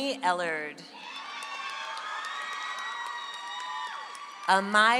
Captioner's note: audience applauds